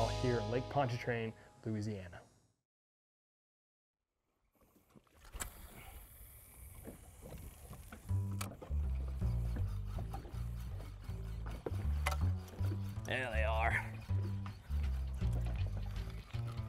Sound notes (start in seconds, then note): 5.1 fishing pole reeling